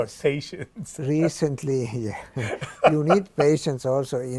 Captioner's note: laughs